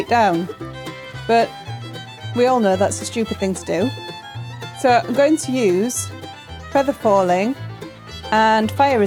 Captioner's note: slow falling